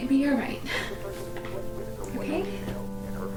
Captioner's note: sighs